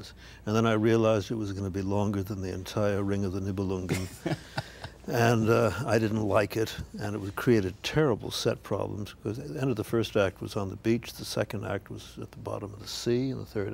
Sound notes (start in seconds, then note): 3.9 Ed chuckles